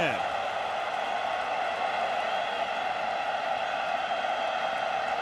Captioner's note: cheering